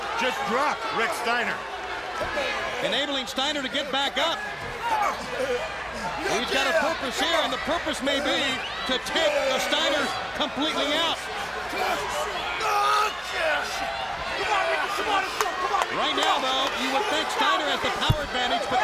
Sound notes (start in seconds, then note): 11.7 crowd cheering; 13.1 fighters grunting